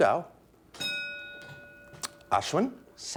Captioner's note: bell ringing